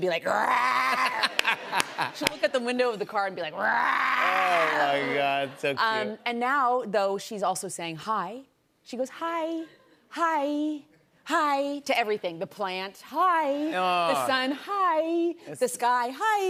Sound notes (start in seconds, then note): 0.1 growls; 3.5 growls